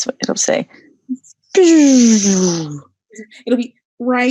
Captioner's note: zooming noise